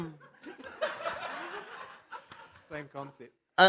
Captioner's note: laughter